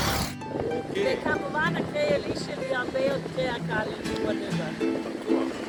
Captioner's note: Hebrew